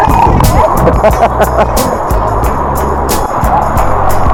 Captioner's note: laugh